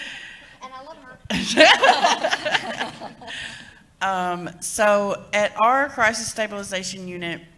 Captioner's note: laughter